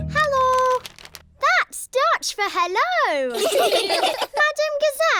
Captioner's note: laughter